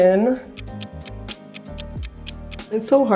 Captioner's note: ticking